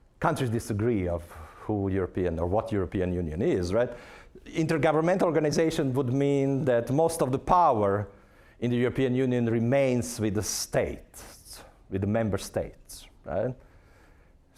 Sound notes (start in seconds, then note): none